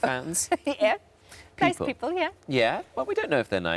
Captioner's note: laughs